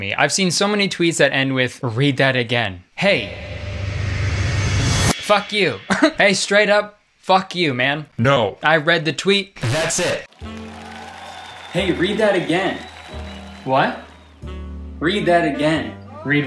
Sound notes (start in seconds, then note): 10.2 crowd cheering